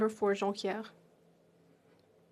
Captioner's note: speaking French